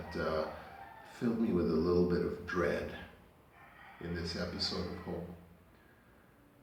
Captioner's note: roosters cocking